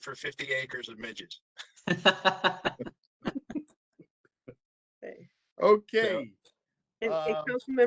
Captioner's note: laughter